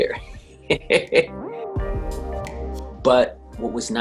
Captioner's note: laughs